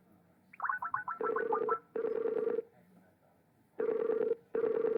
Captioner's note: electronic computer sounds